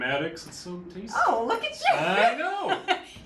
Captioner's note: laughs